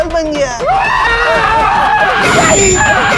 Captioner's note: Shouting